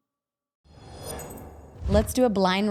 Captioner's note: air whooshing